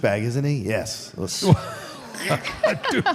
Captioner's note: Mark and Michelle laughs